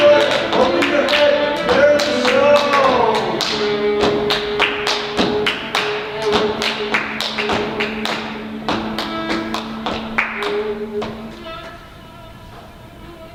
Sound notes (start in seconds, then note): 3.6 rhythmic stomping and clapping; 10.5 violin music